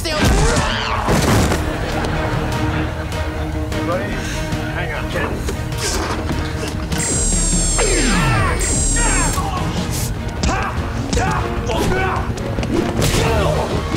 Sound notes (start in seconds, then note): 0.4 screaming; 7.0 screaming